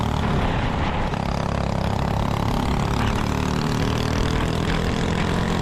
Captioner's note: engine revving